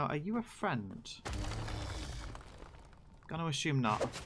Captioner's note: golem stomps and growls